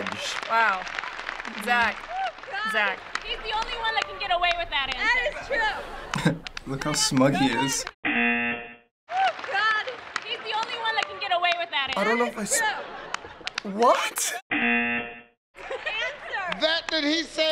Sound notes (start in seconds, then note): 5.1 chuckling; 8.1 buzzer; 14.5 buzzer